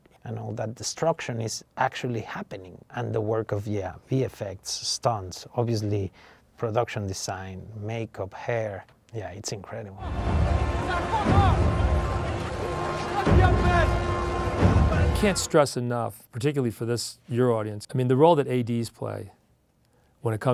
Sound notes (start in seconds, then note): 10.0 people chattering; 10.0 dramatic music; 11.4 man speaking in a foreign language